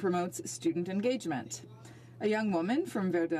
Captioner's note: speaking French